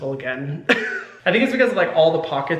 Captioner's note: Hyram laughing